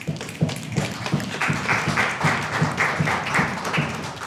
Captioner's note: crowd stomping their feet